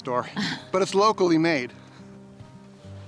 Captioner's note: laughs